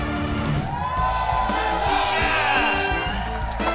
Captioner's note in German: Dynamische Musik; Jubel, Applaus